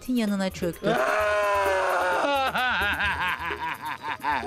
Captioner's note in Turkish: Ağlama sesi